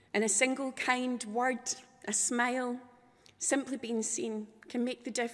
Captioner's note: none